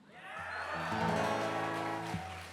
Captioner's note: audience cheering; gentle guitar music